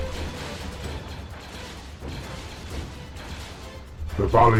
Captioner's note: lasers blasting